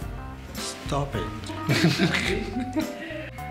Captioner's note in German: Gelächter